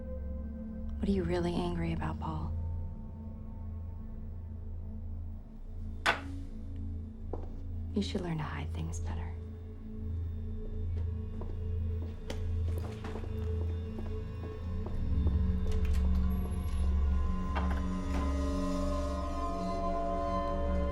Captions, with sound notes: What are you really angry about, Paul? (gentle tense music) You should learn to hide things better. (shoes clacking) (door latch clicks) (eerie music)